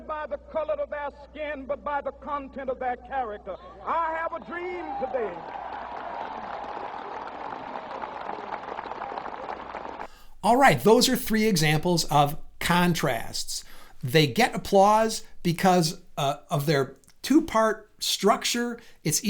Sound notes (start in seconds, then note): 4.5 crowd claps